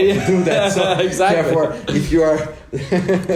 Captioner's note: laughs